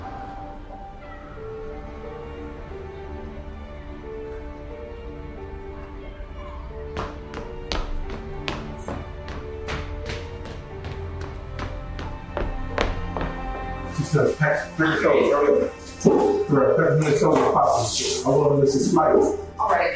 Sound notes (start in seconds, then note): 1.2 mysterious music; 4.5 birds chirping; 6.9 mysterious music continues; 9.3 footsteps